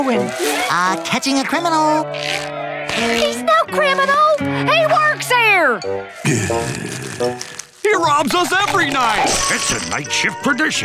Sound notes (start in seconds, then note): 6.2 groaning